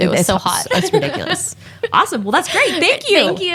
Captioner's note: laughs